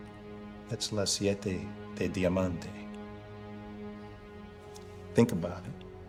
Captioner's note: speaking in Italian